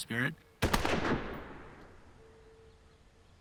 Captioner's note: fires